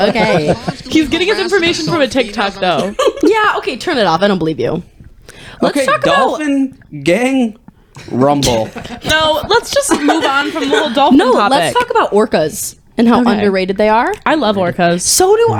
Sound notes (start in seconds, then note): 0.0 laughing